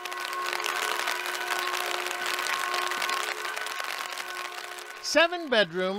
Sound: rain spattering; bell ringing

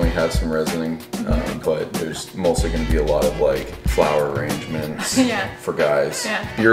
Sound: sarcasm

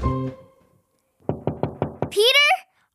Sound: door knocking

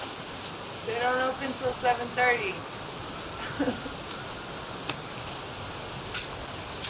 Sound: laughs

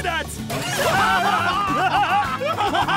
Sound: laughing

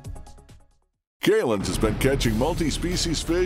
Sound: voiceover

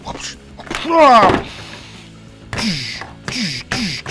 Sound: grunting

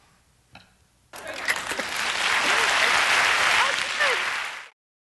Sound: audience claps

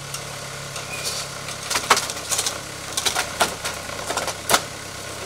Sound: loud telehandler engine droning

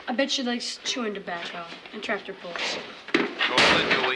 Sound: helmet slams

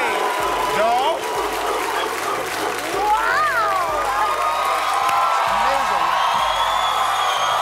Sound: cheers and applause

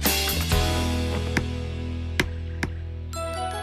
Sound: tapping

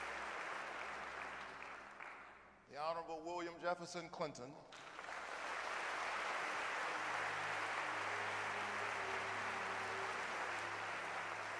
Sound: applause

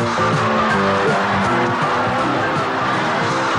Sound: audience laughter

